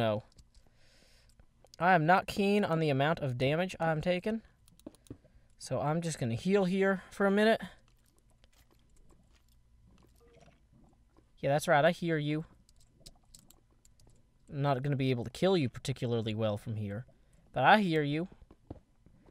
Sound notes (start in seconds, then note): 7.8 bones rattle